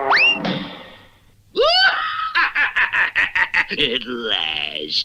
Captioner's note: Simon Bar Sinister Laughs